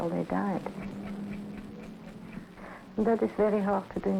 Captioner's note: clock ticking